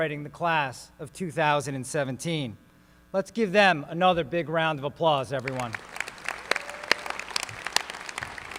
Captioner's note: applause